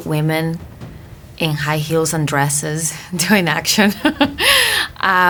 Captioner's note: chuckling